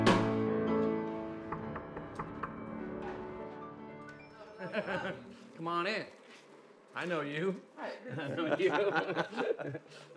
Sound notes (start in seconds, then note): 1.4 knocking; 4.5 laughter; 8.0 laughter